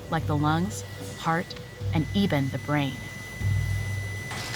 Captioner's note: EKG flatlining